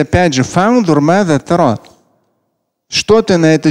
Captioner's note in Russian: говорит на арабском